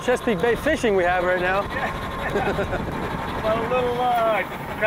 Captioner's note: laughs